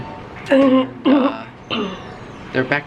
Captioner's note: clears throat